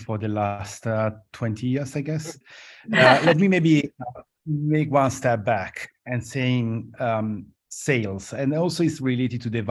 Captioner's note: laughter